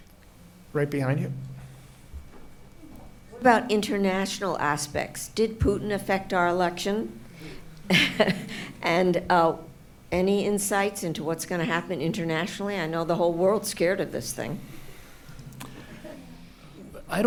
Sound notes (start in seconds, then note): 7.0 laughs